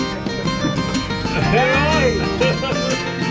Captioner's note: laughing